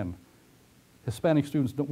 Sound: pause

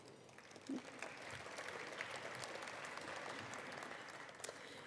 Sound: attendees applauding

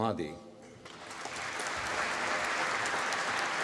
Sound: applause

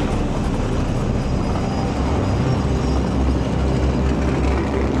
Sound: mufflers rumbling

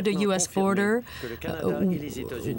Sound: speaking French

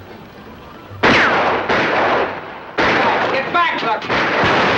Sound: gun firing

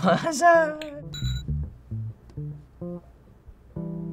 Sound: game chimes

